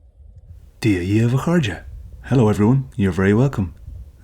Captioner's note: spoken in Irish